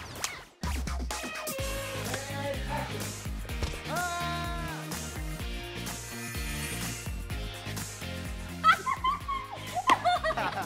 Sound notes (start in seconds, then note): 3.8 screaming; 8.6 laughing